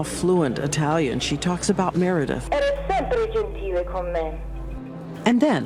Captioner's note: speaking foreign language